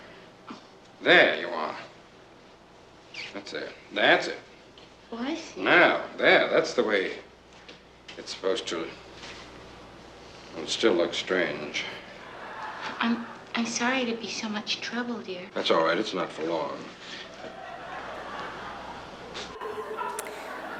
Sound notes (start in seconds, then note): 11.9 audience laughs